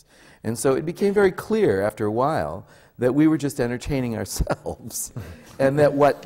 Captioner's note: laughs